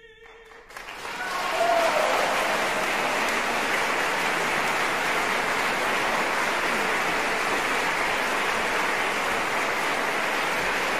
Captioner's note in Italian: applausissimo